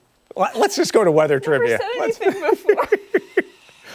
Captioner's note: laughter